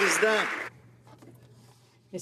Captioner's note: applause